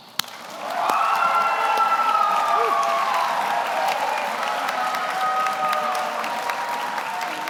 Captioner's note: audience applauds; audience cheers